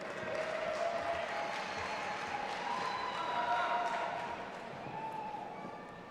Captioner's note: audience applauding and cheering